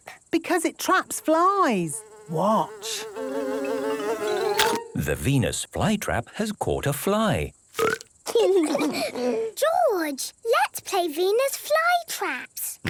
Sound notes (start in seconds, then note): 3.8 buzzing; 3.8 chomps; 7.7 burps